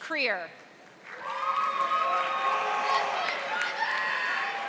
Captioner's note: audience applauding